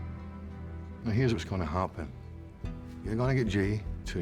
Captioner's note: scottish accent